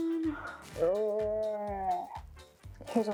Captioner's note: intense tired groaning